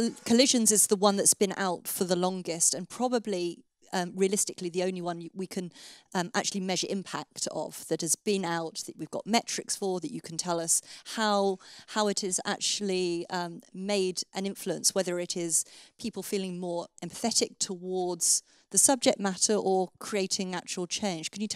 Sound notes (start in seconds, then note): none